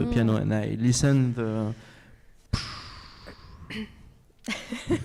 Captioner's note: exhales